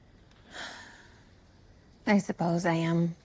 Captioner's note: sighs